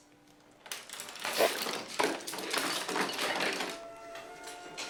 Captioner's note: brushes clattering